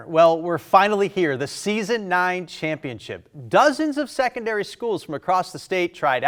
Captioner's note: none